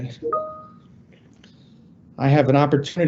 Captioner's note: computer beeps